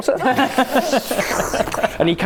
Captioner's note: surprised laugh